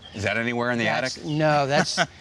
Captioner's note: laughs